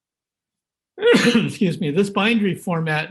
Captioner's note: sneezes